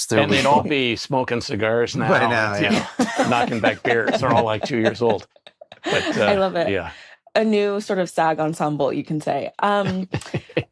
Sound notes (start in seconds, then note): 5.2 hosts laugh; 9.8 chuckles